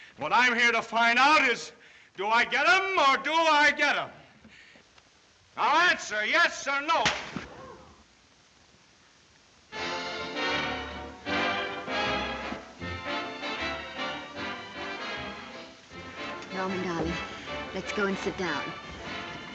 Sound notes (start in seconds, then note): 7.6 audience gasps; 10.0 instrumental music